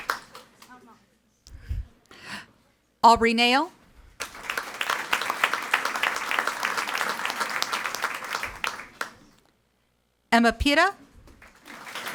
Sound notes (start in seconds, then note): 4.2 audience applauding; 11.3 audience applauding